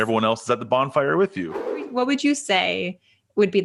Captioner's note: air whooshing